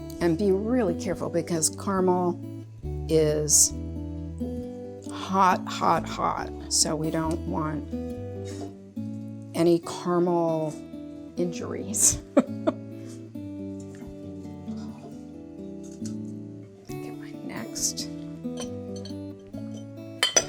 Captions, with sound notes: and be really careful because caramel is hot, hot, hot, so we don't want any caramel injuries. (laughs) (soft music) Get my next. (soft music)